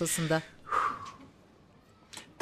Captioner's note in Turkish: İç çekme sesi